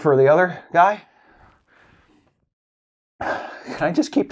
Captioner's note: shaky, sniffly breath